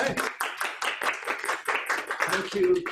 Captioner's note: audience applauding